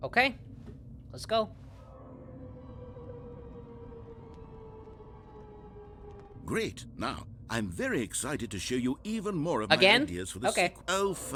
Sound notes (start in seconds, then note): 1.9 shepard tone descending